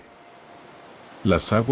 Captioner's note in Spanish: Sonido de mar